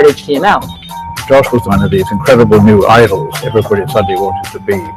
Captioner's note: voiceover